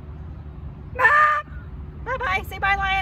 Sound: screams

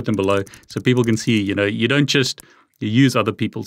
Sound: keyboard keys clicking

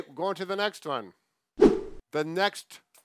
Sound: swift whooshing

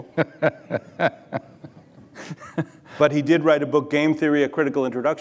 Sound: Yanis laughs

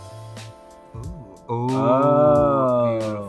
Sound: pleasant music; both oohing

